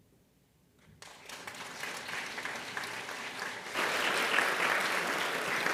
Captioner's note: audience applauding